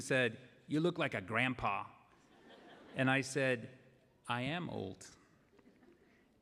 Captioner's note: laughter; laughter